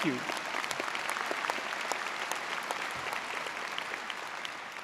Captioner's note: audience applauding